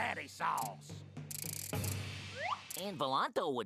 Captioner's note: whirring